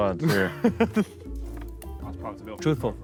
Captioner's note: Sidemen laugh